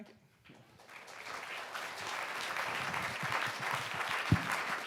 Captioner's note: audience applauds